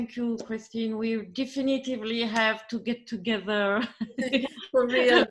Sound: laughs

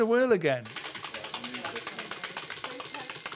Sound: wheel clacking

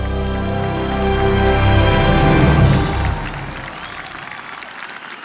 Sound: audience applauding

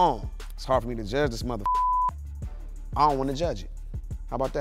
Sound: beep

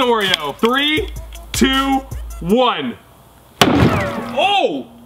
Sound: hammer bang; bullet rebounding

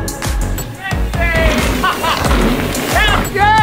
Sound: laughs

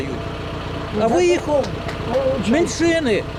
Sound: applauds

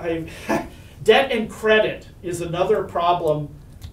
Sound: laughs

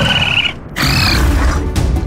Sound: Brutus Growls

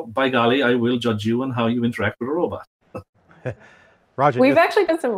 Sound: laughing

